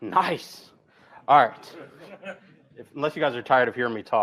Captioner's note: laughter